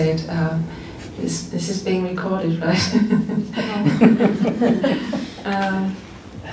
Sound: laughter

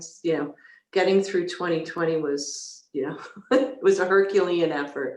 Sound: laughing

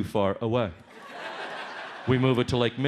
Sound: audience laughs

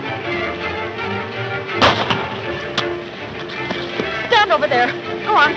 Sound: gun fires

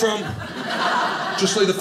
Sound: audience laughing

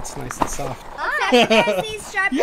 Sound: laughing

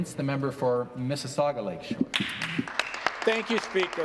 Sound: some Applause

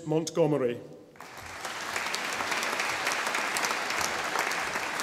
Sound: audience applauding

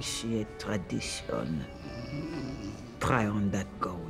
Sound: snoring

